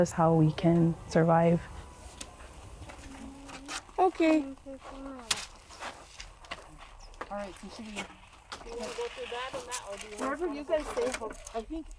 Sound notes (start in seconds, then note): 7.7 muffled background chatter